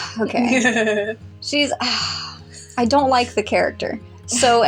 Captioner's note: sigh; deep Laugh; sigh